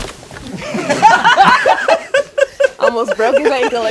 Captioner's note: all laugh